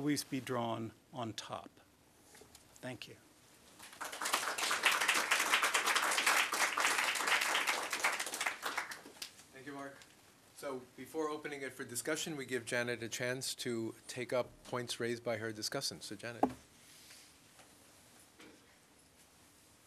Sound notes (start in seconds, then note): 3.8 applause